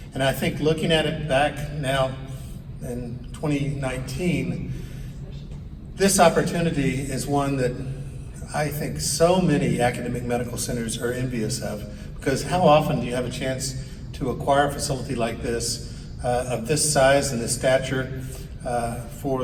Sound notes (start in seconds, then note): none